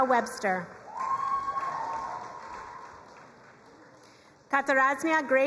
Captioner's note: crowd cheering and applauding